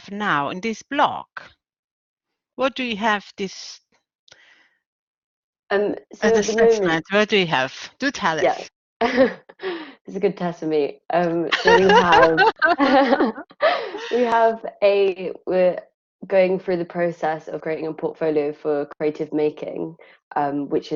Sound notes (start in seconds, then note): 9.0 laughing; 11.5 all laughing